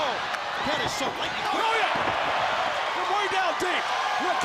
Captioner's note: crowd cheering